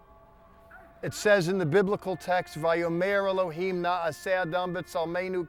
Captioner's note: speaking hebrew